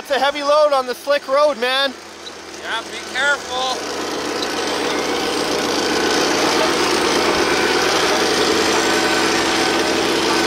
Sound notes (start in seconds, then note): 4.4 machine engines roaring